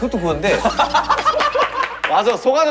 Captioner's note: hahaha